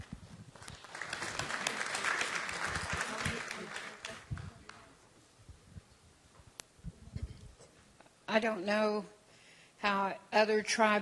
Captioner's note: applause